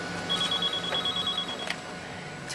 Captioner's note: phone ringing